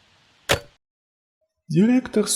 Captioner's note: the sound of the receiver being put down